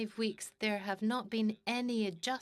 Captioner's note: speaking in French